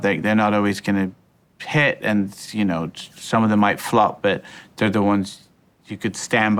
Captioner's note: none